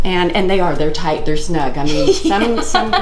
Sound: laughing

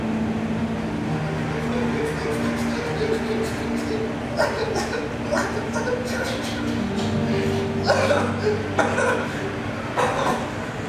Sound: dolefully Mewling

